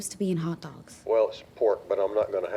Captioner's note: on phone